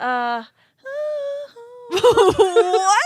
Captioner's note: humming